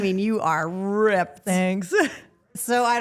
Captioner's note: laughs